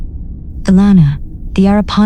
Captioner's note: her voice calm, but with a note of concern